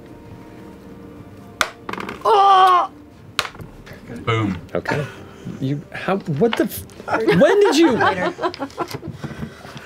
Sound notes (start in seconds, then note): 7.1 laughter